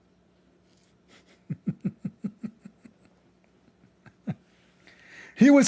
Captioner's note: Ketawa